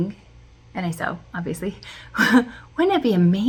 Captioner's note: chuckle